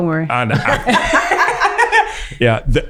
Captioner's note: everyone laughs